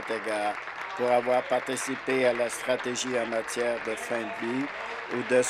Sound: applause

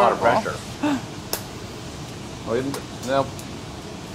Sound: egg cracks

